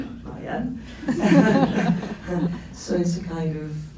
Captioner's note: laughs